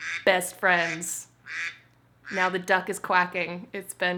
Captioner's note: duck quacking